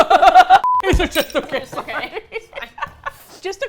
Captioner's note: laughing; both laugh